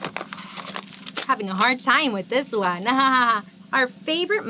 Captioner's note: laughs